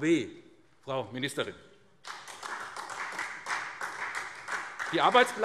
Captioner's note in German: Beifall SPD